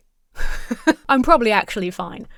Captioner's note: laughs